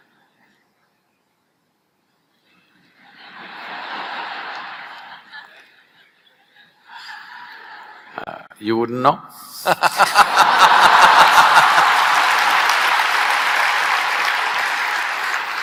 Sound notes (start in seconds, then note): 9.6 laughter/Applause